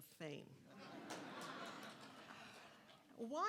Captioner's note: audience laughing